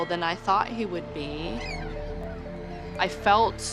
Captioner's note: gulls calling